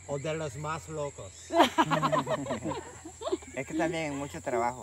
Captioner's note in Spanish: risas